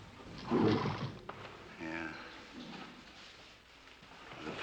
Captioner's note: horse Snorts